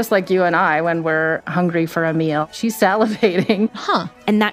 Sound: laughs

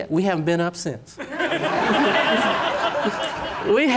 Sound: laughter

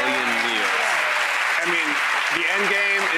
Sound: audience applauds

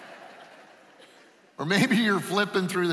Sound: laughing

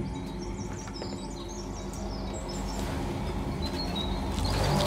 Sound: birds chirping

